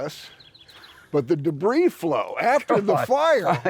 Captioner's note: laughs